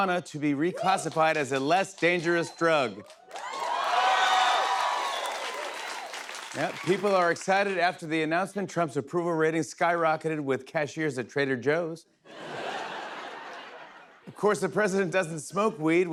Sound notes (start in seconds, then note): 2.0 cheers and applause; 12.3 laughter